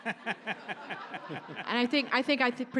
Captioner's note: audience laughs